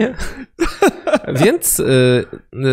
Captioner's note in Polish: śmiech